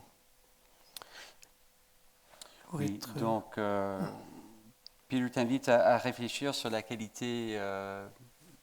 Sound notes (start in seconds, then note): 3.2 speaking in French